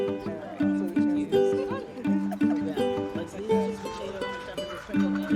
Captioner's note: people chatting indistinctly